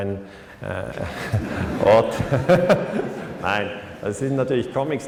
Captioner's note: haha